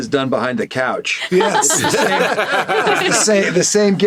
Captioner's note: laughing